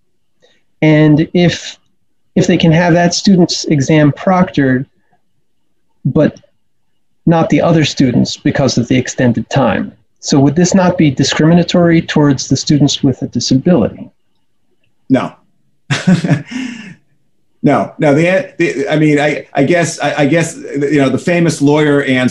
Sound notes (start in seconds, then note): 15.9 chuckles